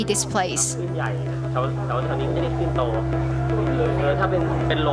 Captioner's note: speaking thai